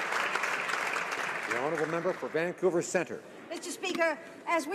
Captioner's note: some Applause